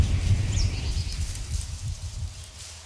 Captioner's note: shuffling